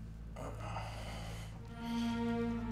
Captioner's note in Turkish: Nefes sesi